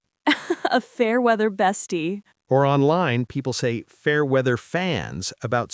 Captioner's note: laughs